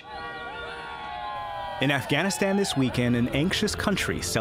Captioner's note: voice-over